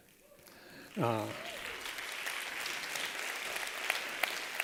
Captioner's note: applause